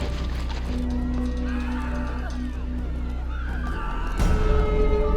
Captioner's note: people screaming